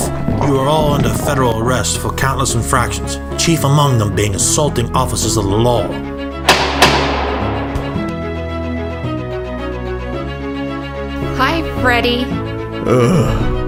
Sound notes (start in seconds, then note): 6.4 doors clang shut; 12.8 annoyed sigh